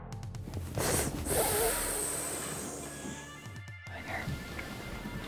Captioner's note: snorting